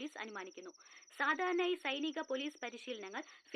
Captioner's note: TV news